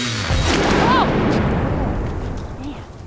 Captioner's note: boom